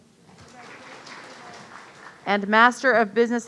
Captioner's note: audience applauding